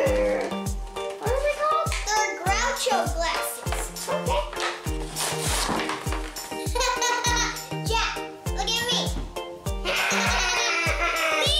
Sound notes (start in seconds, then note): 6.9 laughing